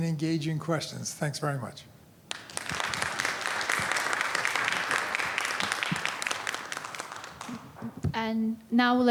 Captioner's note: applause